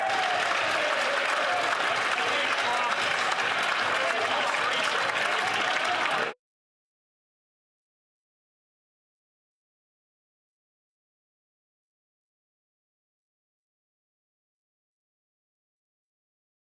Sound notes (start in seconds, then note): 2.9 some Applause